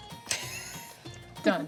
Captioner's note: laughing